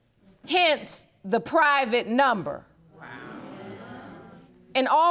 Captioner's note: audience gasping